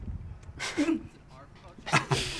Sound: both laugh

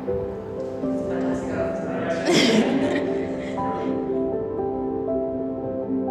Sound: laughs

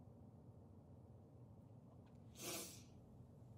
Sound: sniffs

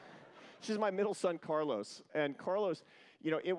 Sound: laughter

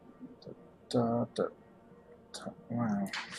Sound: counting wordlessly

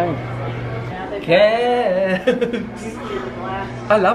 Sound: laughing

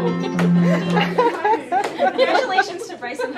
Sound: participants laughing

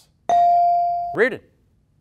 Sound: ding

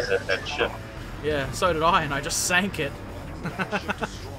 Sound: laughter

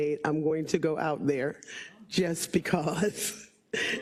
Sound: laugh

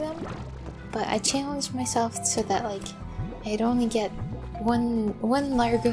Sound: none

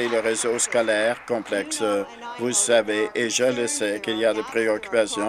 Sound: applause

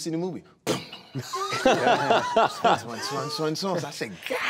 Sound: laughing

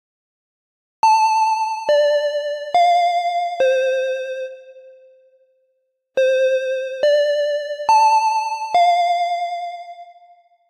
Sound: scary school bell

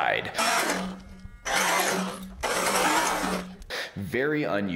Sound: engine revving

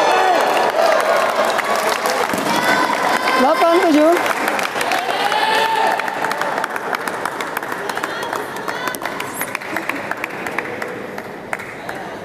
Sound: applause

